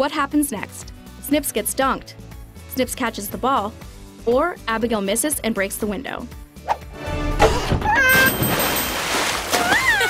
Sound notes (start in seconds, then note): 7.5 shouting; 8.2 water splashing; 9.5 screaming